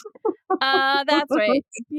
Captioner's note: laughs